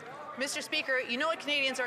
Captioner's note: some Applause